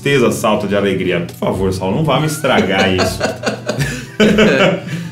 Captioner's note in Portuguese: Risos